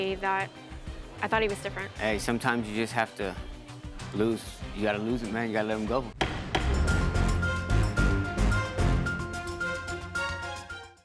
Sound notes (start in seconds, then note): 6.1 dramatic music; 6.2 gavel banging